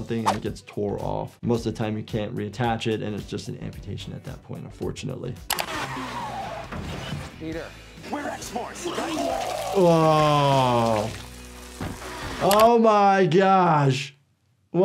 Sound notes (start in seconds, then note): 5.6 car tires screeching; 8.8 projectile vomiting